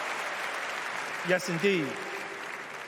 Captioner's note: applause